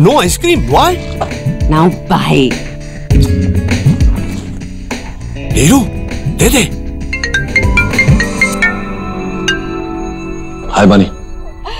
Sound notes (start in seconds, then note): 3.2 Kisses; 7.2 Cell phone ringing